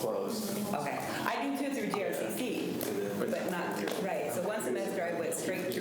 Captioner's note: faintly speaking